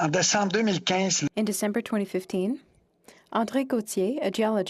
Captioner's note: speaking French